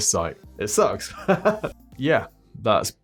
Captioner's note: laughing